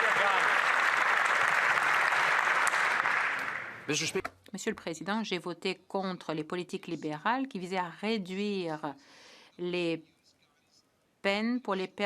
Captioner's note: applause